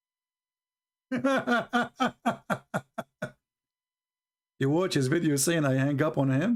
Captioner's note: Ketawa